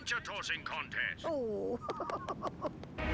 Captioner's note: giggling